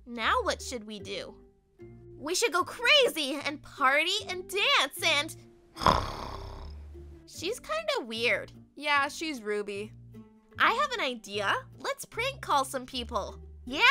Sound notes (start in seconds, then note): 5.8 snores